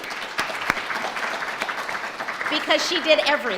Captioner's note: audience applause